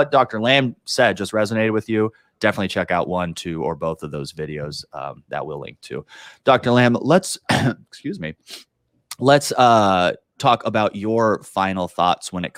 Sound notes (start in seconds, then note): 7.4 clears throat